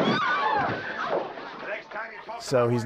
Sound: fist thuds; patrons gasp and scream

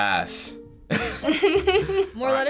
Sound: laughing

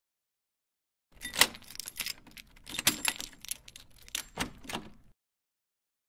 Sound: door sound

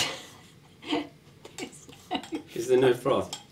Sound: laughs

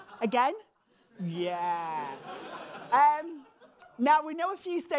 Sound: audience laughing

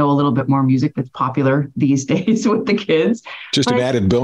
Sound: laughs

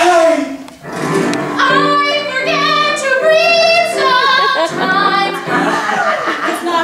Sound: deep breath

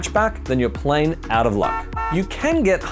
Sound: car honking

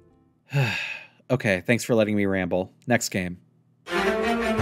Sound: sigh

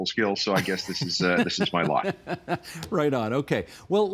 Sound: laughing

